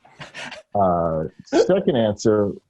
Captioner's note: Ronny laughs